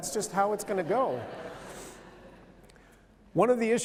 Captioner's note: laughter